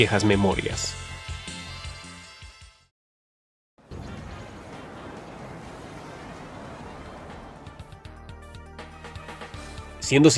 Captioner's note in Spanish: Bullicio